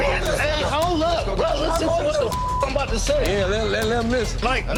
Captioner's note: beep